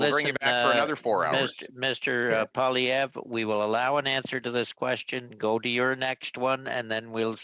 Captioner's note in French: voix de l'interprète